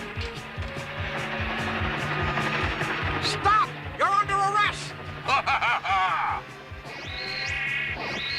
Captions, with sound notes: STOP! YOU'RE UNDER ARREST!! (LAUGHS)